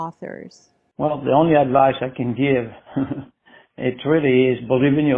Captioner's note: chuckles